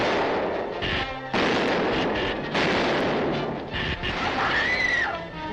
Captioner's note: Atomguns zapping; explosion blasts; Atomguns zapping; explosions blasting; Diana screaming